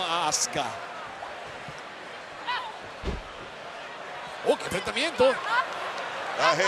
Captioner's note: applause